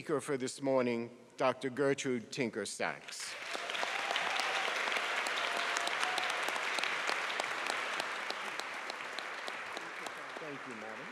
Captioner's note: applause and cheers